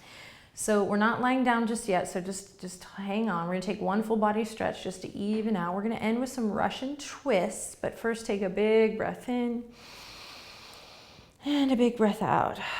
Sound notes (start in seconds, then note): 9.7 inhaling